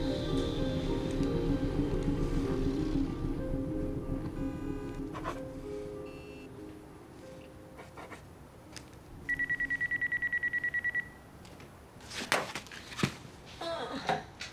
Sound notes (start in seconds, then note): 9.2 phone ringing; 13.7 groans